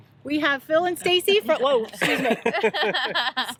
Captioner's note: chuckles